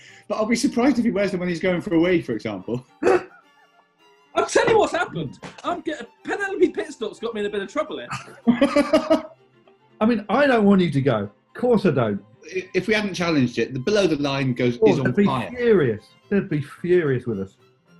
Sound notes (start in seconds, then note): 0.0 laughing; 3.0 laughing; 8.0 laughter